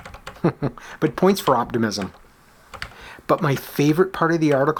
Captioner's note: chuckles